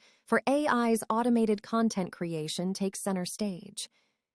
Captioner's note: none